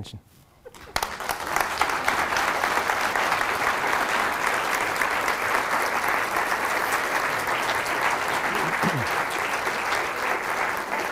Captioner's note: lengthy applause